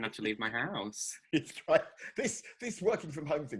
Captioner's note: laughs